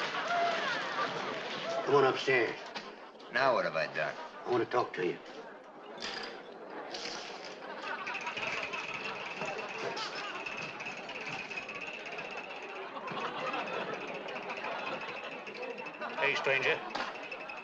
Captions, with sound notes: Come on upstairs. - Now what have I done? - I wanna talk to you. [ PEOPLE CHATTERING ] Hey, stranger.